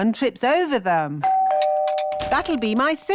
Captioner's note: doorbell rings